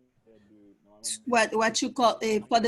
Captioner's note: French spoken